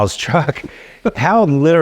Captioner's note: laughing